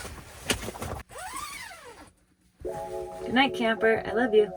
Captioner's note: shuffling and clicking; zipping